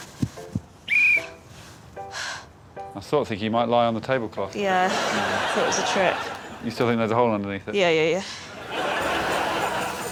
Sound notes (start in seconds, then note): 0.8 whistle blows